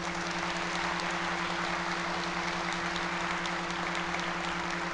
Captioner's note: audience applauding